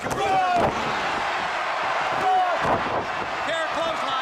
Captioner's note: crowd cheering